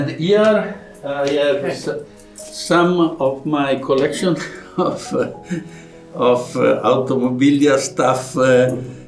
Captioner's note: laughs